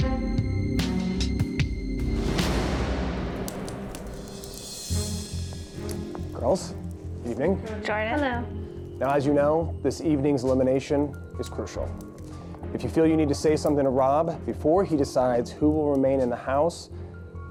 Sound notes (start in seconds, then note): 0.2 suspenseful music; 3.9 flames crackling